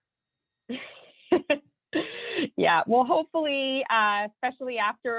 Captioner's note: laughs